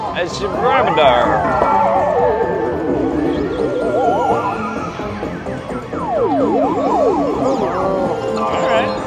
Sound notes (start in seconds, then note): 0.6 imitating drunk guy